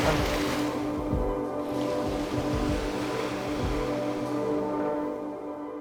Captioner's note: olas rompiendo; waves crashing; la música se apaga; music fades out